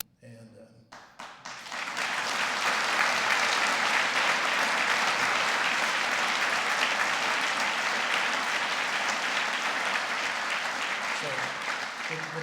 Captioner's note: applause